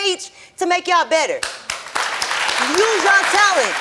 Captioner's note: audience applauding